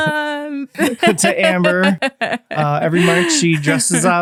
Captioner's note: laughing